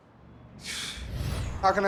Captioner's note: scoffs